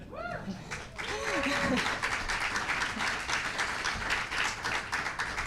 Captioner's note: cheering, applause, and laughter